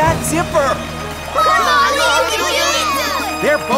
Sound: cheering

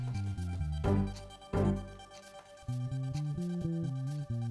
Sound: ticking Clock

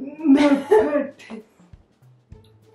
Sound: laugh

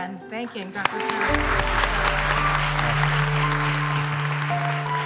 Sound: applause

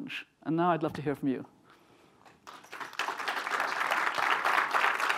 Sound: applause

